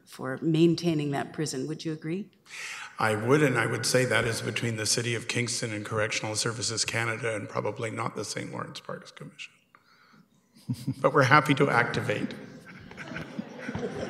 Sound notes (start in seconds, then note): 10.6 mayor chuckling